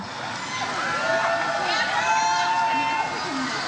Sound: crowd cheers

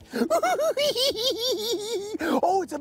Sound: cackling

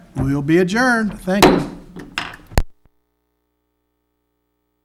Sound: gavel tapping

